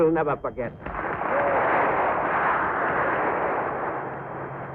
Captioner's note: applause